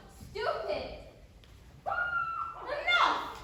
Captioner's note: muffled scream